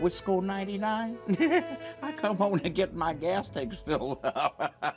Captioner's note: chuckles